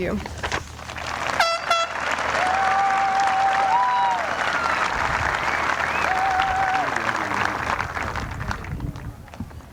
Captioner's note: applause